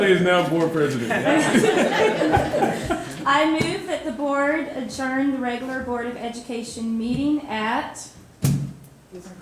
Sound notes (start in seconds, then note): 0.9 all laughing